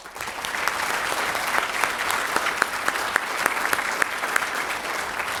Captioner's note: applause